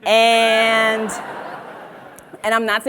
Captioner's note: audience laughs